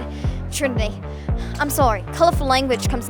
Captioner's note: australian accent